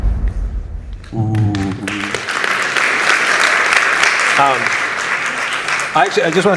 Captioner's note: applause